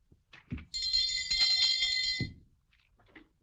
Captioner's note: جرس يرن